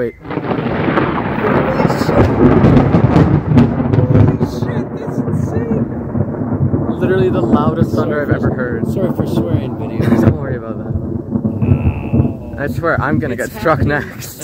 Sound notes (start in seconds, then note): 0.3 super close and loud thunder; 4.9 super close and loud thunder; 8.1 super close and loud thunder; 11.6 laughs; 11.7 super close and loud thunder; 13.6 thunder rumbles and echoes